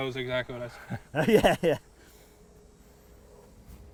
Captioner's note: laughing